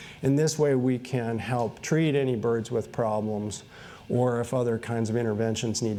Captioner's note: none